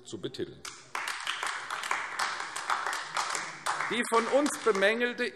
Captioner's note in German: Beifall AfD